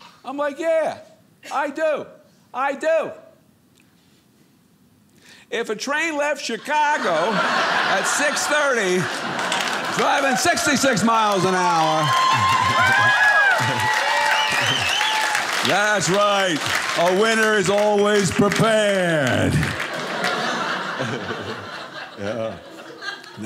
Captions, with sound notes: I'm like, yeah. I do. I do! If a train left Chicago at 6:30 driving 66 miles an hour . . . (audience cheering) that's right, a winner is always prepared. (audience laughing)